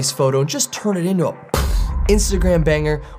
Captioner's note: imitates explosion